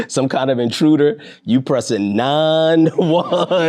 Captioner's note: laughing